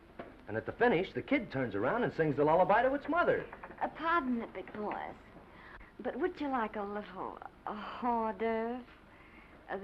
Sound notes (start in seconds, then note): 3.9 silly accent